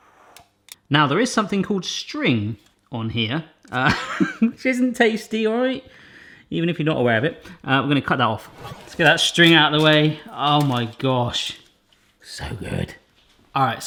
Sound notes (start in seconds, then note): 3.8 laughs; 8.5 whooshing